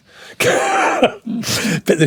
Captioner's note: laughing